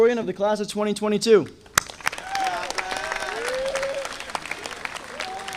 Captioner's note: audience applauding